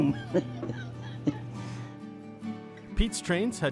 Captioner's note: laughs